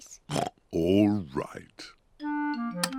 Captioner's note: oinks